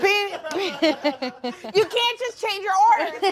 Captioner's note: all laugh